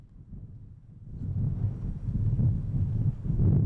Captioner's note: wind blowing